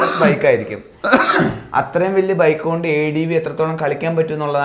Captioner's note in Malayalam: പൊട്ടിച്ചിരി